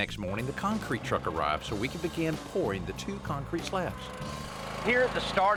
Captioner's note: engine roars